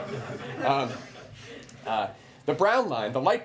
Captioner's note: laughter